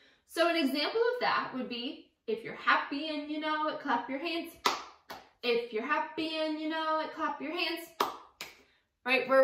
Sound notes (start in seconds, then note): 4.6 clapping; 8.0 clapping